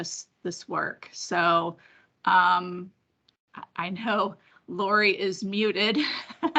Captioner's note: laugh